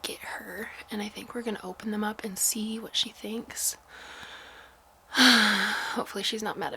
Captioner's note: sigh